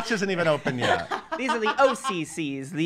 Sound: laughing

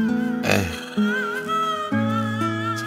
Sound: sigh

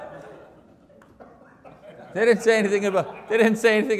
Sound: audience laughs

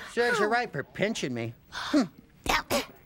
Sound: gasps

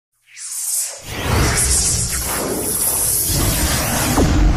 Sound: digitally-generated sounds

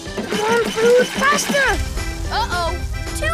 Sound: pedal squeaks

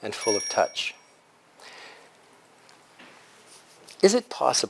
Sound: pause

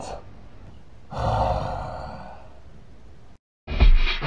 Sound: sighs

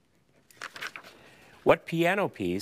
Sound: paper crinkling

